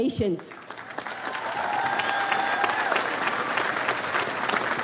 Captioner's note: audience applauds